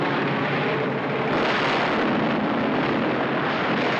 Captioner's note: exploding